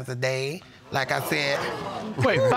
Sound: audience exclaiming

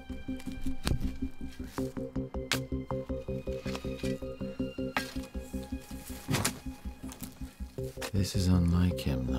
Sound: digging noise

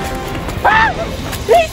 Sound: scream

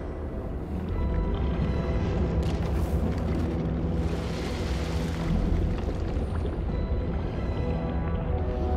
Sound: water sloshing, gurgling

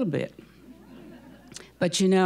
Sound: audience chuckling

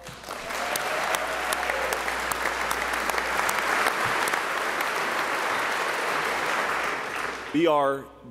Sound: applause

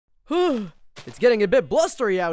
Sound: exhales

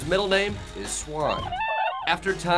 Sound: swan noise

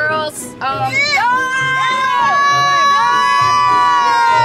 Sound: screaming

